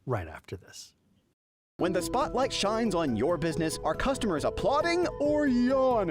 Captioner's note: voiceover